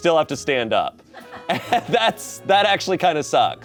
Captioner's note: audience laughing